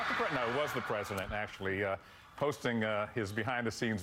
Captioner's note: cheers and applause